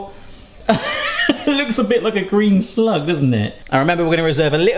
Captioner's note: laughs